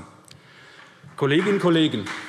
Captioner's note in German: Vereinzelter Beifall SPD